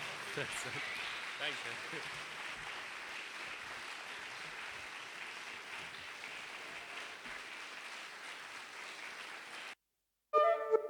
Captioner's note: applause